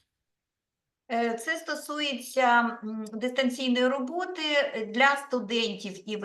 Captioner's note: speaking Ukrainian